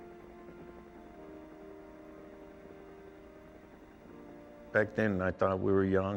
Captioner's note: helicopter blades whir